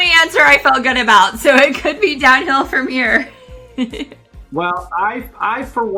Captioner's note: laughs